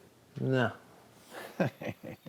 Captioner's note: laughs